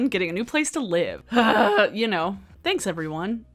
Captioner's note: groans